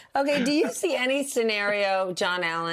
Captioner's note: laughter